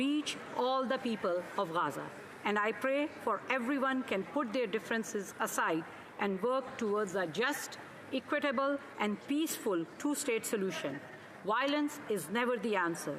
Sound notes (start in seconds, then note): none